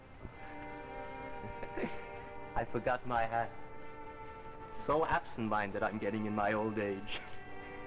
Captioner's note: chuckles